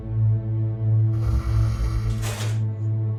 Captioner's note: low growl